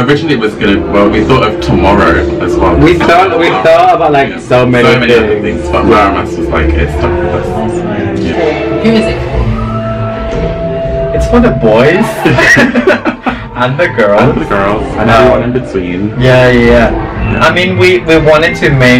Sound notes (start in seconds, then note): 12.0 laughs